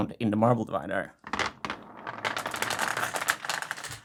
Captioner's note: marbles rolling